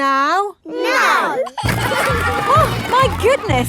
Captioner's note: giggling